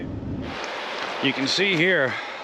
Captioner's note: water flowing